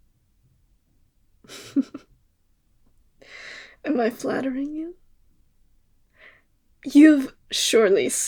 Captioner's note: laugh